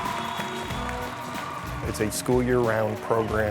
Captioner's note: crowd cheering